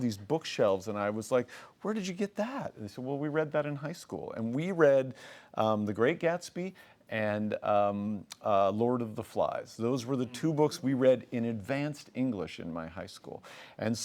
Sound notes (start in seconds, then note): none